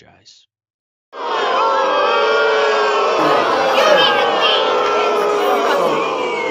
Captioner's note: crowd Booing